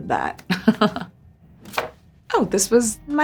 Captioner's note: Priyanka laughs